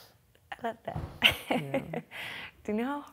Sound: laughs

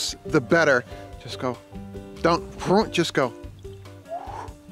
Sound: whooshing

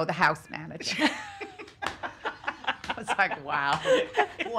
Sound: laughing

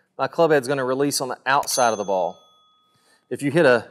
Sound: bell dings

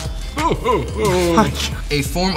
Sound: laughs

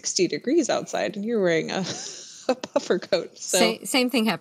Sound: laughs

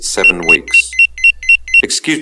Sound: beep sounds

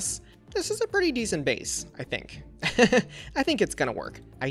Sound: laughs

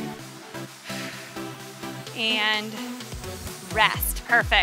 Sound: breaths

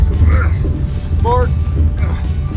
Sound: men grunting

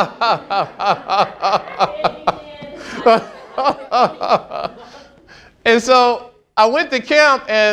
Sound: laughing

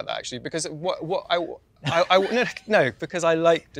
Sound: stammering

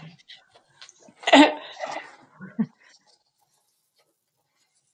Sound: laughs

